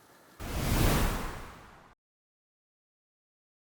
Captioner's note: air whooshes